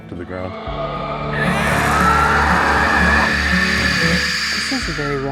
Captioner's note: shrieking